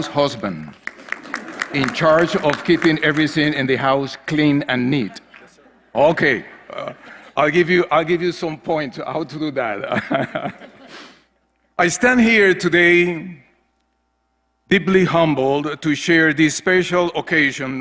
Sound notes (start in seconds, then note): 9.9 laugh